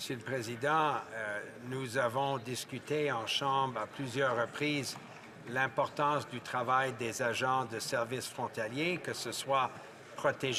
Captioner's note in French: applaudissements